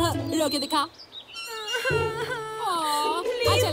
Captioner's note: Girl crying